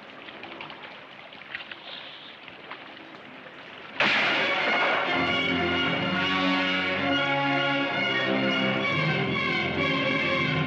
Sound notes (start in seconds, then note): 4.0 gunshot bangs; 4.0 tense, dramatic orchestral music